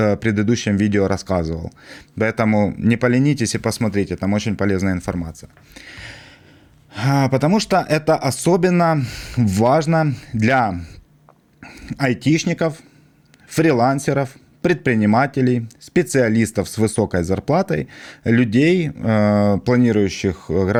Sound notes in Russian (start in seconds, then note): 5.7 тяжело вздыхает; 6.3 вздыхает